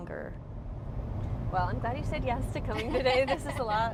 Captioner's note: laughing